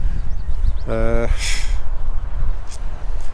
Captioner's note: sigh